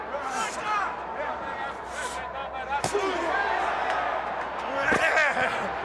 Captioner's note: crowd cheering